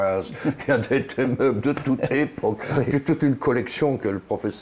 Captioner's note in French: rire